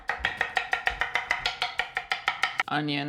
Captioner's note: cleaver thumping